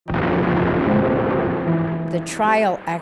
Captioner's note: bomb blasting